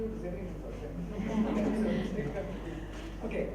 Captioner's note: audience laughs